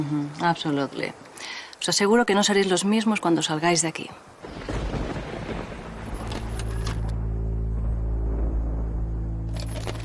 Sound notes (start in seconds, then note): 4.4 thunder and fireworks